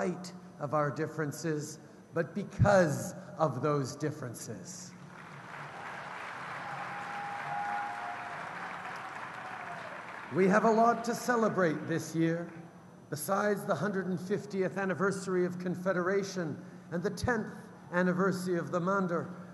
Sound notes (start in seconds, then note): 5.0 cheers & applause